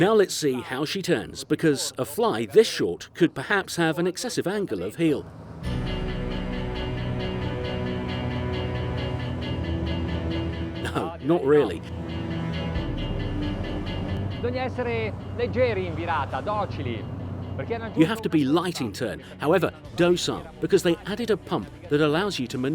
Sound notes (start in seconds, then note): 5.8 dramatic string music; 14.6 speaking in foreign language